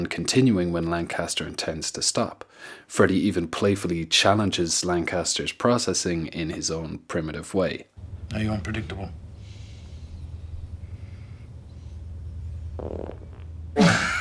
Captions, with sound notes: continuing when Lancaster intends to stop. Freddie even playfully challenges Lancaster's processing in his own primitive way. Are you unpredictable? *farts*